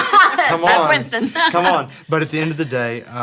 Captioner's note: laughs